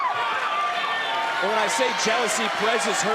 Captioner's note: audience cheers